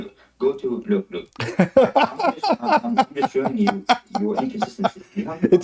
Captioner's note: Ketawa